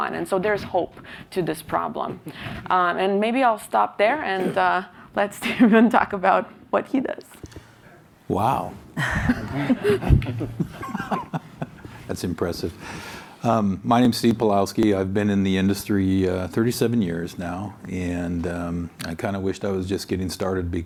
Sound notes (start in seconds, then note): 9.0 audience laughs